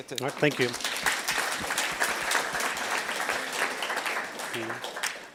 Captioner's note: audience applauds